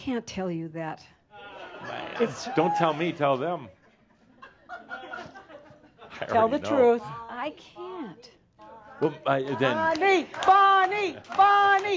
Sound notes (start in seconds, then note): 2.0 some chuckles